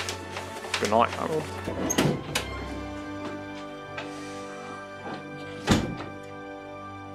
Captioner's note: harold opens and closes door